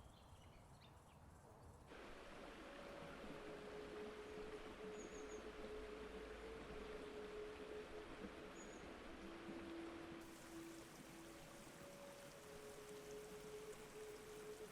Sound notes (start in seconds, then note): 2.9 gentle music; 2.9 rushing water